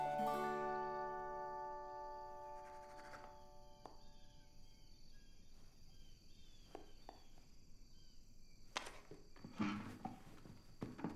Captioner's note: pencil scribbles